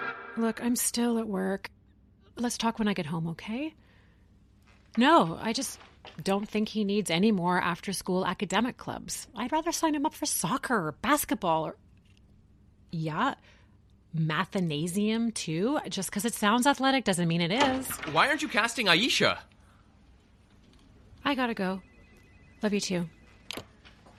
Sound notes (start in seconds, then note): 17.4 door opens